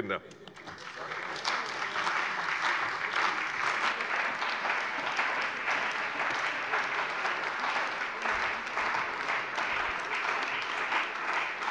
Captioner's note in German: Beifall bei der CDU und dem BÜNDNIS 90/DIE GRÜNEN